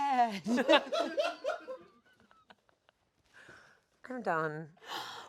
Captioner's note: everyone laughs